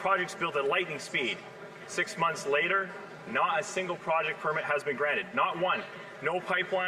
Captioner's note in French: voix de l'interprète